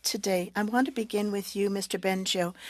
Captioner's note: speaking French